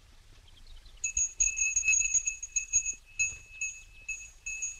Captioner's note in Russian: звонит колокольчик